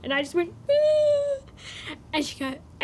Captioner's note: makes crying noise